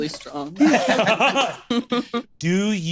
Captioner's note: laughs